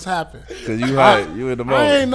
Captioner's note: laughing